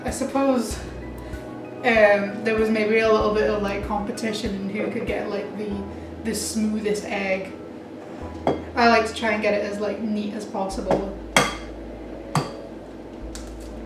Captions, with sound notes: I suppose there was maybe a little bit of competition, who could get the smoothest egg I like to try and get it as neat as possible (egg cracks on side of the bowl)